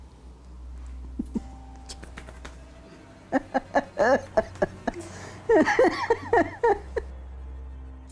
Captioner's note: laughing